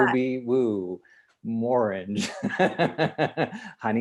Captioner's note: laughs loudly